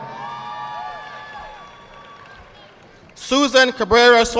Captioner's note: audience clapping